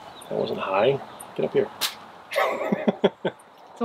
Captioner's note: laughs